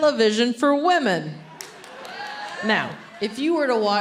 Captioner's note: audience cheering